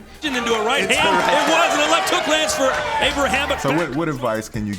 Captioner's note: audience cheering